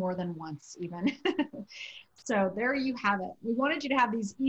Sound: laughter

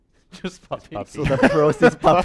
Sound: laughter

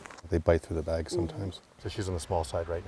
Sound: cage slamming

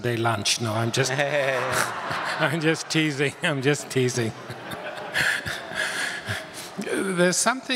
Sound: audience laughter

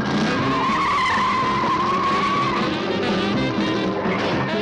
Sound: tires screeching

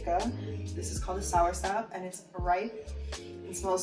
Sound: sniffs

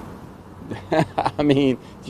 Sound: laugh

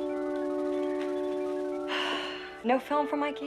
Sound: sighs

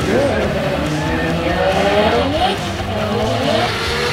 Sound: engines revving

